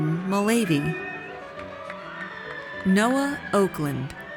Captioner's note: audience cheers